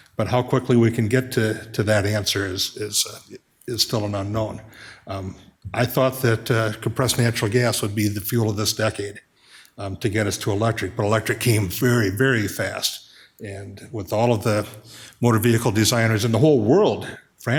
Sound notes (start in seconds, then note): none